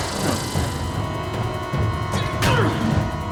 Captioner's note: intense music; ghoul scoffs; Paul grunts; head thuds